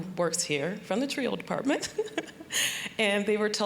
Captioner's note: giggling